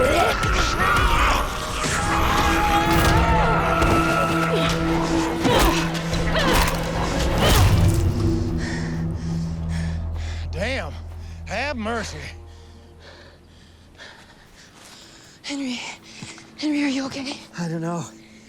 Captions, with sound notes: [grunting] [panting] - Damn. Have mercy. - Henry. Henry, are you OK? - I don't know.